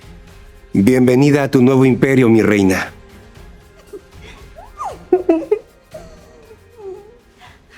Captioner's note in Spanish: risas